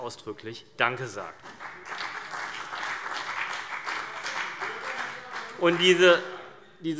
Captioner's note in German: Beifall CDU und BÜNDNIS 90/DIE GRÜNEN